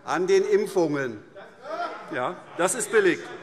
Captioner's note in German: Zuruf: Hört, hört! - Weitere Zurufe